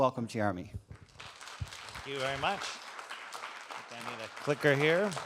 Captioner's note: audience claps